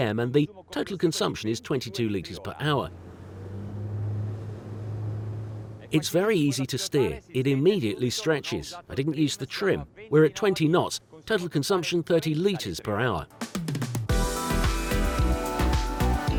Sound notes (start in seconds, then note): 2.6 boat engine roaring; 12.8 upbeat music